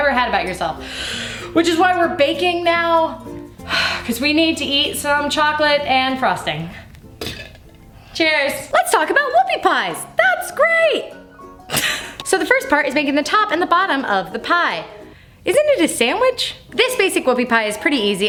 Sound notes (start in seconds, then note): 3.7 sighs; 11.7 laughs